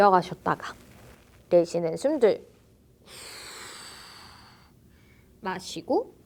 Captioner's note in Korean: 한숨